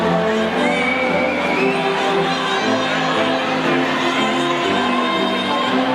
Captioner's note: audience whistles and faintly shouts